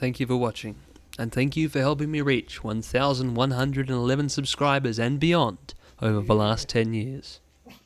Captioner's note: dog wuffs